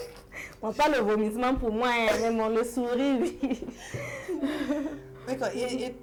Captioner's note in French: rires